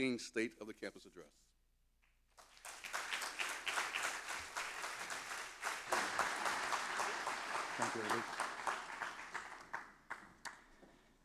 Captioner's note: applause; chanting, repeating